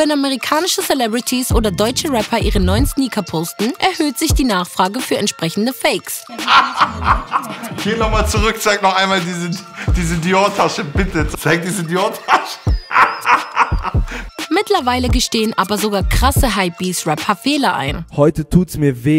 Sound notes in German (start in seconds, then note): 6.2 Lachen; 9.1 lacht